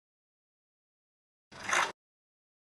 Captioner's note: click